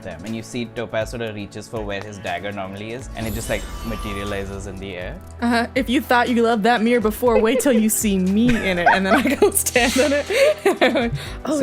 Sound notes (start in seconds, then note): 7.3 laughter; 8.8 laughs